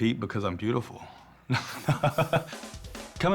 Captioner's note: laughs